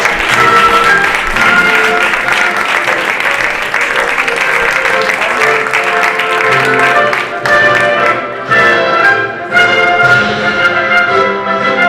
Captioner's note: applause